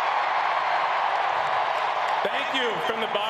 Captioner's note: applause